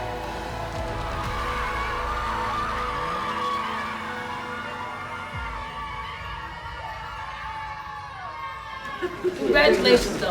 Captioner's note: cheering